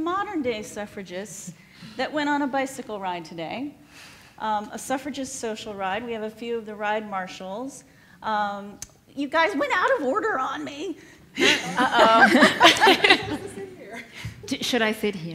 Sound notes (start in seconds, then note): 11.4 laughs